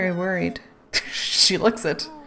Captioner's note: laughs